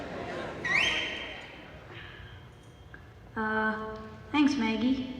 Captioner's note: loud whistling